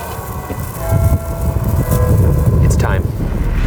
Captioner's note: church bells ringing